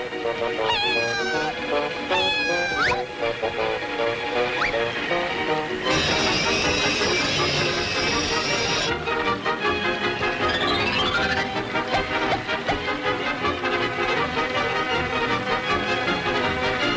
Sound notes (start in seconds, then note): 5.8 saw whirring; 13.2 dramatic music continues